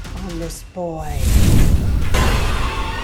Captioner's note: flame whooshes; spine-tingling music